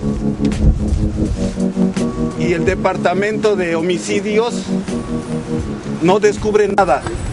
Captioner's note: foreign Language